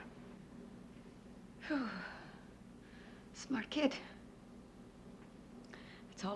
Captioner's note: exhales